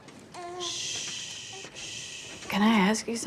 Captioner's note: shushing